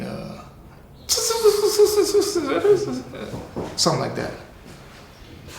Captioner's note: imitates skittering sound